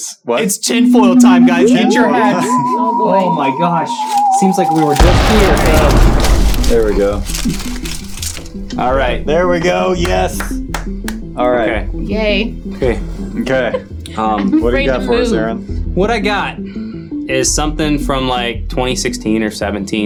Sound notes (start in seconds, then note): 1.2 eerie music; 4.9 explosion sounding; 9.6 applauding; 13.4 chuckling